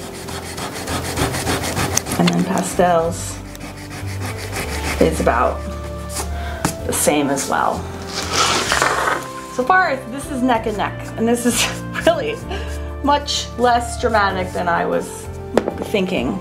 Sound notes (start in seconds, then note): 0.0 eraser rubbing; 7.3 palm rubbing; 7.9 drawing paper scraping